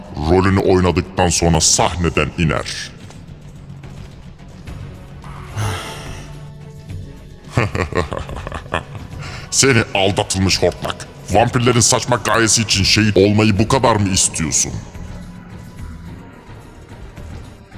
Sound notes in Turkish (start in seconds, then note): 7.4 kahkaha